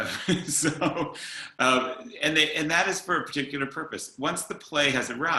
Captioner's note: chuckles